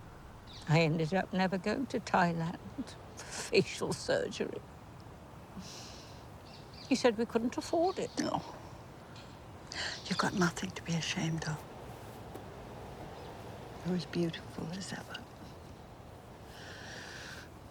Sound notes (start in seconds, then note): 8.1 scoffs